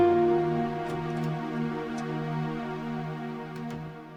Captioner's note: door rattling